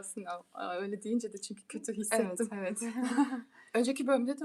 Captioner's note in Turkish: kahkaha